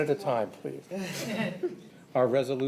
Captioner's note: laughter